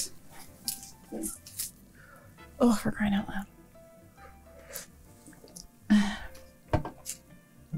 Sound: heavy sigh

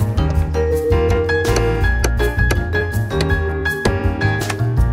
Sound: hammer pounds

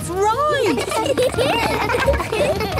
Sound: laughter

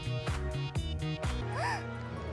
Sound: gasping

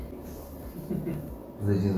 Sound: laughs

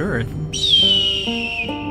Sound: eagle screeches

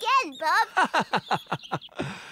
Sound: bob chuckles

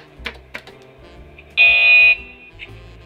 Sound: harsh buzzer rings

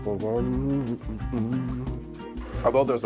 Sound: uplifting music; hums

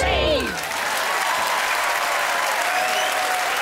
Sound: applause

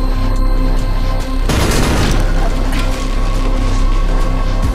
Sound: gunshots

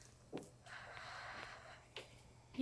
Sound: sighs

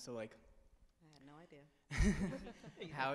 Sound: laughs

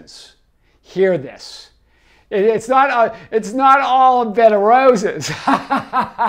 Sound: laughs

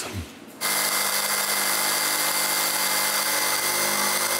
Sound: machine noise

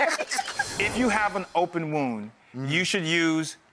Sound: hosts and audience laugh; air whooshes

